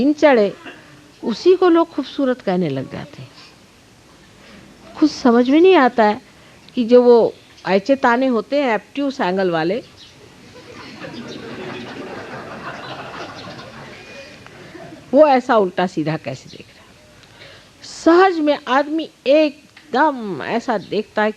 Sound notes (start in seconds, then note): 10.2 laugh